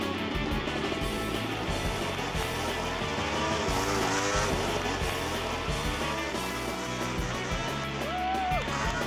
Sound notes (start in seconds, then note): 2.5 engine roaring; 7.2 cheering